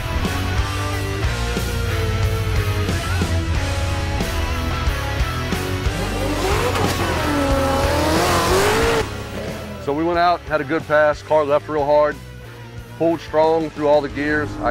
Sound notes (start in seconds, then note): 0.1 rock music; 6.1 car engine revving